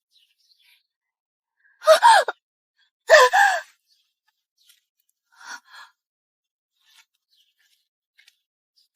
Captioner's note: scream